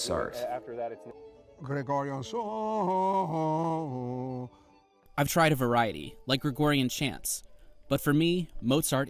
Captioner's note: through translator